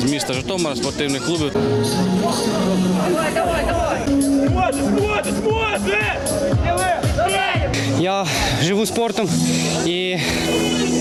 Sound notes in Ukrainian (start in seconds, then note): 1.5 вигуки вболівальників і учасників